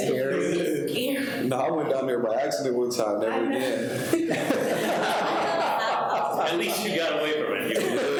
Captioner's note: people laughing